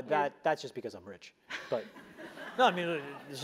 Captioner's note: laugh